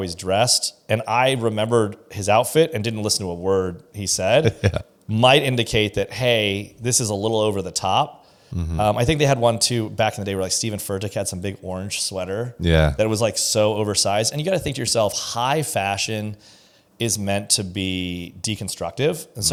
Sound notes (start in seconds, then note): 4.4 laughs